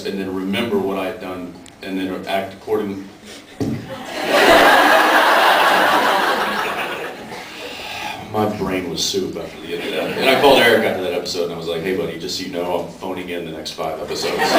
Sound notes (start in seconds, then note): 3.9 laughs; 7.3 sighs